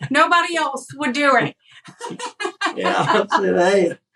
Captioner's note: laugh